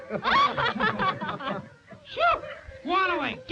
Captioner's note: all laughing